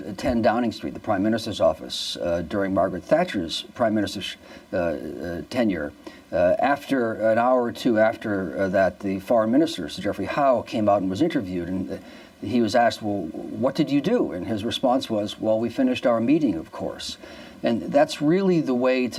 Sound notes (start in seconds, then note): none